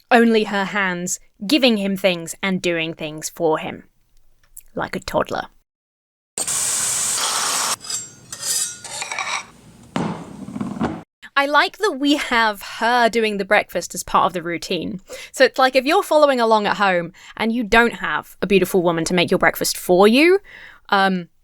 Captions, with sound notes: Only her hands giving him things and doing things for him. Like a toddler. (grease hisses) (metal scraping) (plate thuds) I like that we have her doing the breakfast as part of the routine. So it's like, if you're following along at home and you don't have a beautiful woman to make your breakfast for you,